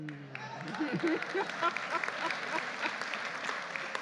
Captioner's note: audience applauding